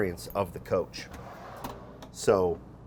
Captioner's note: drawer scrapes